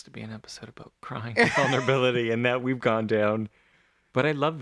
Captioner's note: laugh